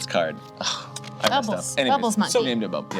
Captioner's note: smacks lips